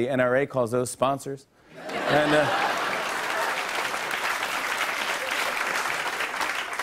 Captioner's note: laughter and applause